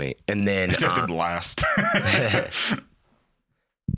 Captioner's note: laughs